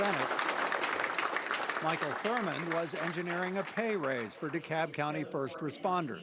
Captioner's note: applause